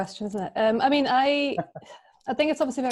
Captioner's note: chuckles